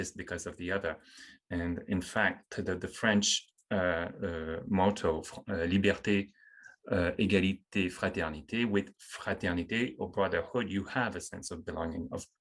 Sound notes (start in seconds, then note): 6.0 speaking french; 9.0 french